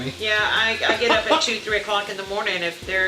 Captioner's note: laughter